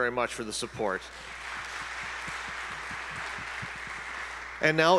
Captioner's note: audience applauding